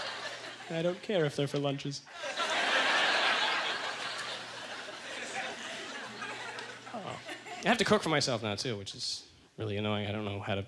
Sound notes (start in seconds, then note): 0.0 audience laughter; 2.1 audience laughter